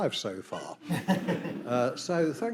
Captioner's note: everyone chuckling